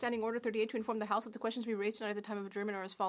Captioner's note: speaking French